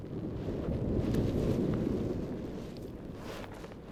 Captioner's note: wind rustling